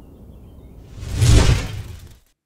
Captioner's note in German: Whoosh